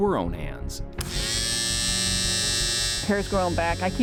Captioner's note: shaver buzzing